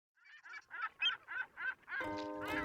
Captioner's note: seagulls chirping